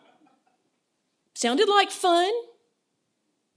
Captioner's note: laughter